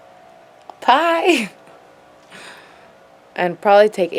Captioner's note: laughs